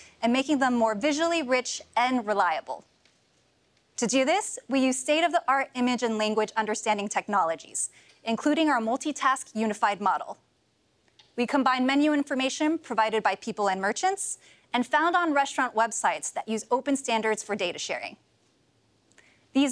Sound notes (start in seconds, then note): none